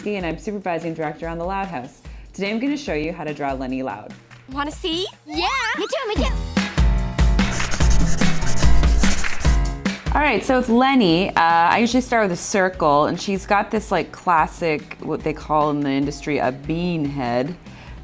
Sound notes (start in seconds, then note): 7.0 upbeat fun music; 7.4 marker scribbling